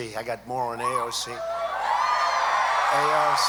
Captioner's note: applause